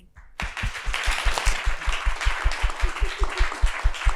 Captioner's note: audience clapping